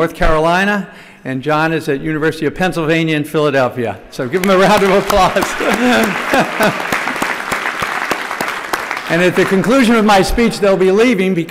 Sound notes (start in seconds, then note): 7.8 laughter